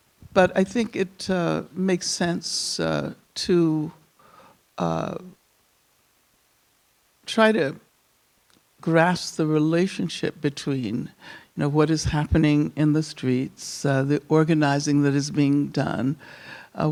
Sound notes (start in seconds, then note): none